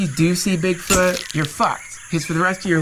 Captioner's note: camera flash clicks